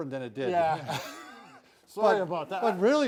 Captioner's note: laughs